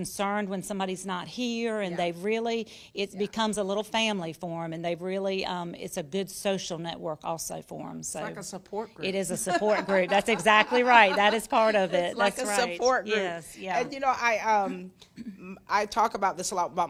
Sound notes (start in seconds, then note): 9.2 laughs